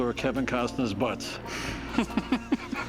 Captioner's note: laughs